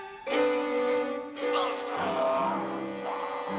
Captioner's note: Basil groans